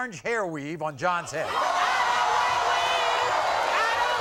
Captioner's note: audience gasping